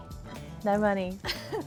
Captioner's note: laughs